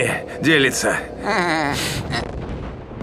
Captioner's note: laugh